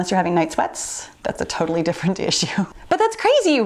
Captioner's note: chuckles